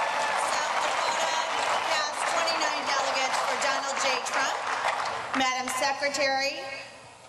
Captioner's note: cheering and applause